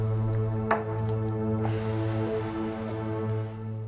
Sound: glass thudding

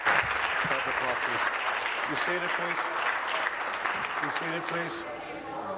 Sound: applause

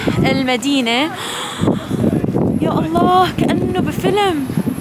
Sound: gasps

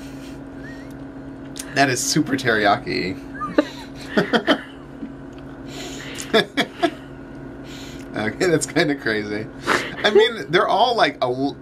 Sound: both laugh

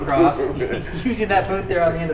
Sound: laughs

